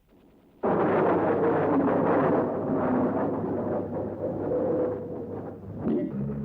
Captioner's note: plane engines roar